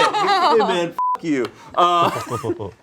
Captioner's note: beep